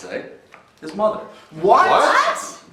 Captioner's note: shouting